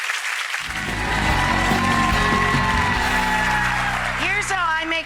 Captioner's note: applause; audience cheering; upbeat music